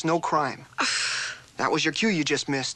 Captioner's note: exclaims